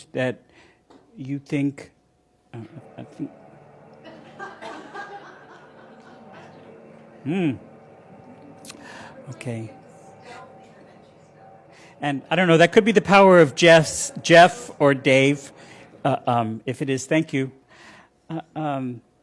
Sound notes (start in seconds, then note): 6.9 laughter